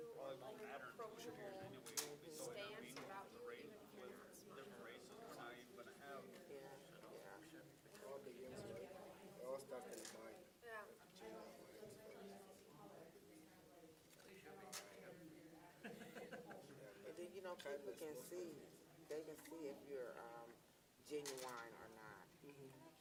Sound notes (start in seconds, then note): 6.6 students chattering